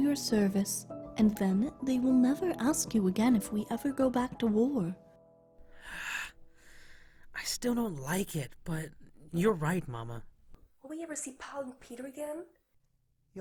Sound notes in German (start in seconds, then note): 5.6 seufzt